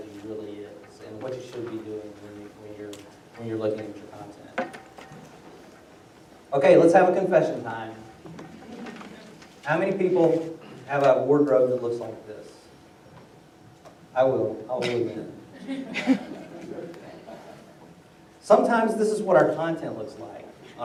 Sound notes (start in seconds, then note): 8.5 laughter; 17.9 laughter